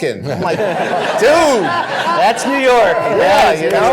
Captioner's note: laughter